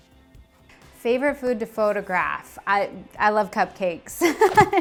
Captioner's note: laughs